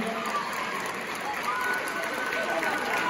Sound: cheers continue; audience woos, cheers

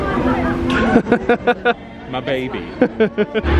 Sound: laughing

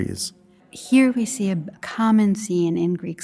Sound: voiceover

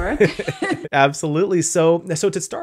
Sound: laughs

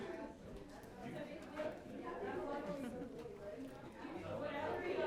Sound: people chattering

